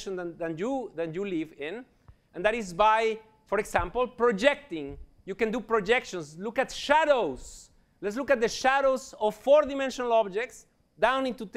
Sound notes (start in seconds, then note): none